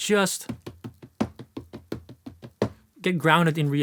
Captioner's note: drumming on table